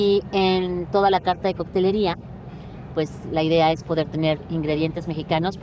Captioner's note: speaks Spanish